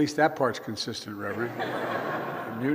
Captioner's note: laughter